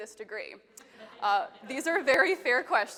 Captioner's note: attendees laughing